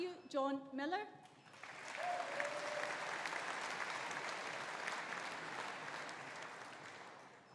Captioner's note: audience applauding; audience cheering